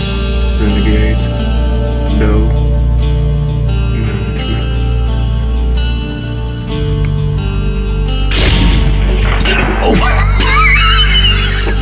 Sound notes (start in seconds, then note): 8.3 rifle blasts